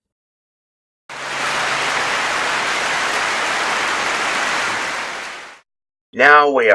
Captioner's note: clapping